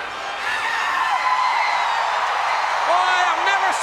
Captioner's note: Sting whooping